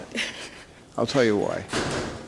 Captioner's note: chuckles